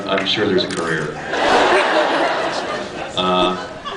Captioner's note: laughs